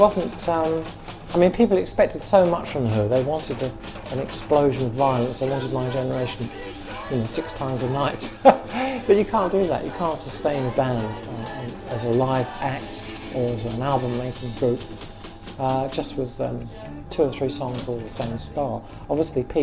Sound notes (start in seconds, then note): 11.6 laughs